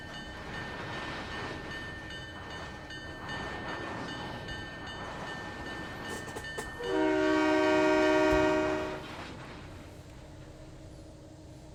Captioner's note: train whistle